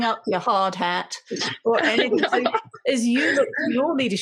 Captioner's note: laughing